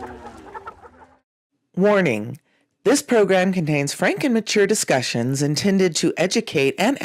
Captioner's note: barnyard noises in background